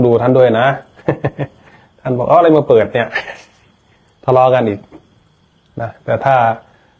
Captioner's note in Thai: เสียงหัวเราะ